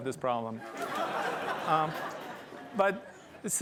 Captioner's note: laughter